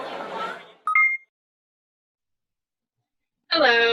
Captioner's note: electronic beeping